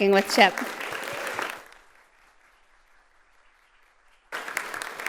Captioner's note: audience applauding